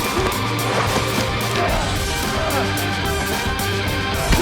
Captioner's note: arm cracking; fighters grunting